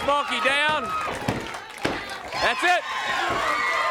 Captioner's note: crowd cheering